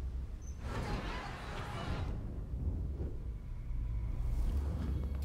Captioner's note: people chattering